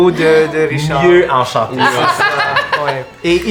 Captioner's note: Roxanne laughs